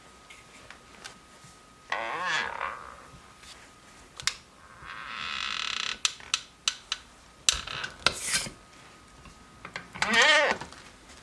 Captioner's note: creaking